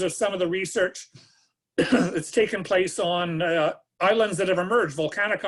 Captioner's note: coughs